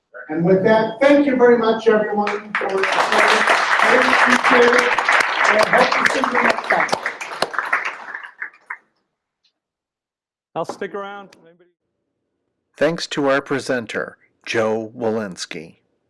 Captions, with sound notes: And with that, thank you very much everyone for sticking around. Hope to see you next time. [Applause] Thanks to our presenter Joe Welinske.